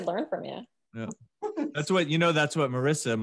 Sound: chuckles

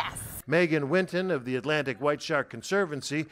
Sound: voice-over

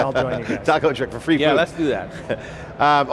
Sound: laughs

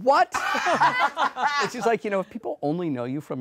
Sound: laughing

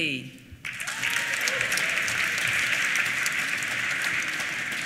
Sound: applause

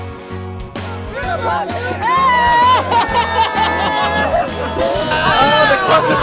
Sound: cheering

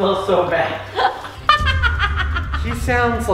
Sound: laughing

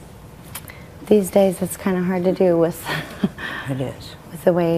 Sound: laughs

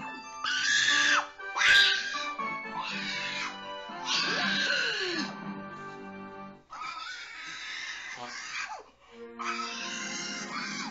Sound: pig Squeals

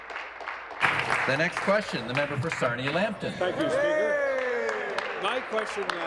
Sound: applause

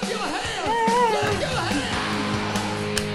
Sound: clapping

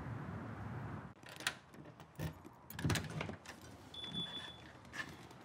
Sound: lock clicks, alarm beeps

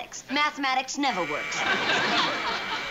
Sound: doorbell buzzes

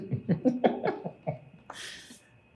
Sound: warm, hinged laughter

